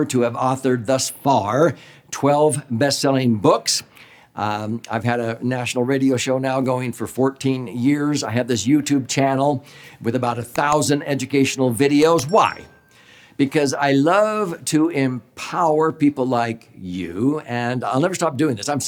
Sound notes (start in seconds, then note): 12.2 bell chimes